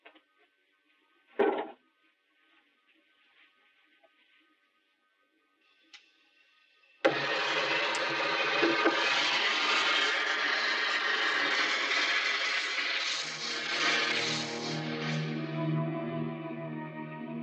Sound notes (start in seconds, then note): 6.6 flame hissing; 13.3 ominous orchestral music